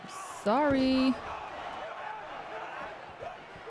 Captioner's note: body thuds